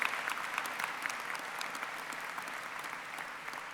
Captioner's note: applause